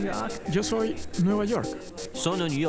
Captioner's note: Spanish